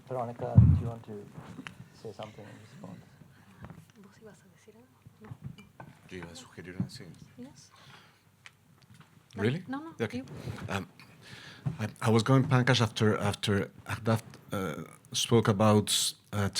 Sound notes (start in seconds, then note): 4.3 speaking Spanish